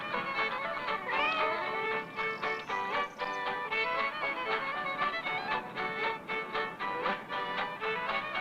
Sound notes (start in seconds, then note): 1.0 meow; 3.7 country music